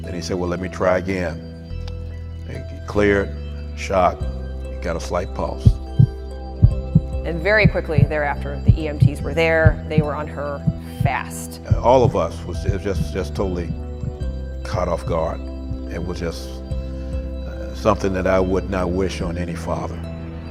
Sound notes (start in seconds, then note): 6.6 heart beating